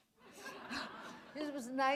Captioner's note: laughter